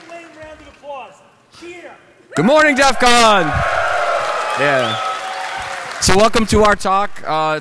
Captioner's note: audience noise, comments; applause